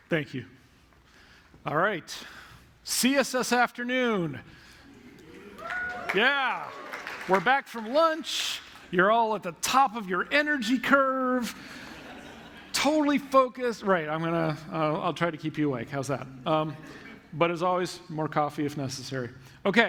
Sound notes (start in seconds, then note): 5.1 cheering; 11.7 laughter